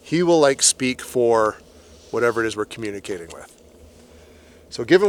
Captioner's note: none